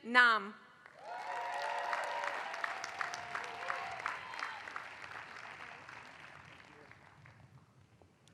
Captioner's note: applause